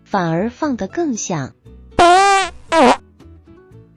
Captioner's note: puff